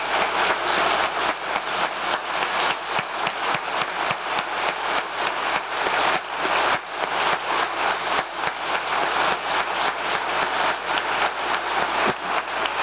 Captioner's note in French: applause